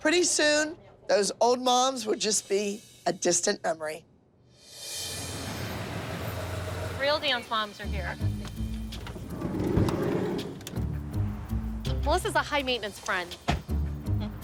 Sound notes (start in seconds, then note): 5.1 vehicle approaching; 8.8 van door sliding open